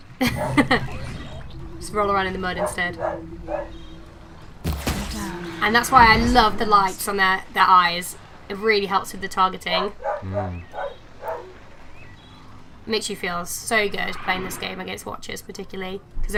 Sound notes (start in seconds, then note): 4.1 more dog barking; 11.2 barking